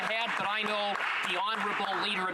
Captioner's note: some Applause